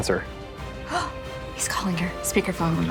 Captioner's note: gasps